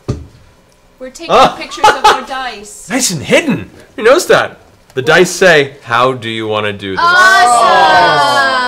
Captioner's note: laughs